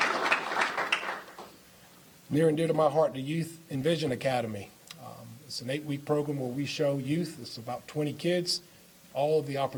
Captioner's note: applause